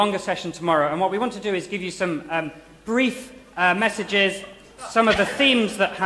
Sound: laughter

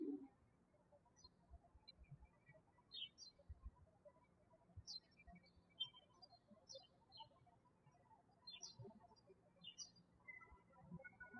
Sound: birds chirping

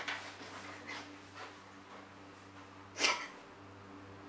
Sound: Rose cries

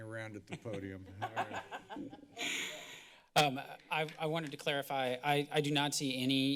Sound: laughter

